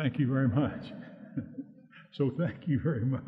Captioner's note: audience laughing